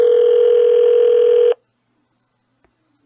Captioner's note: phone still ringing